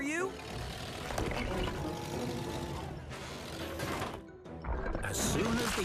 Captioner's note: stones Clatter